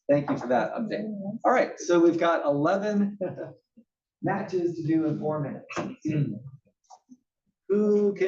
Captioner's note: laugh; cough